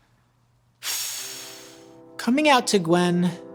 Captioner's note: exhaling heavily